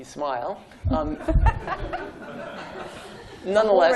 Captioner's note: laughter